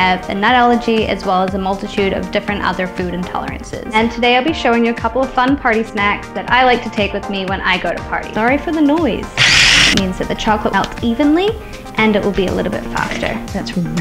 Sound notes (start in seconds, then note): 9.4 grinding noise